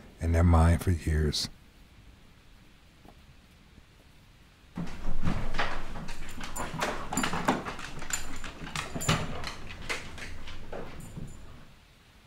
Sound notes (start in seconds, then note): 7.0 claws clicking along the floor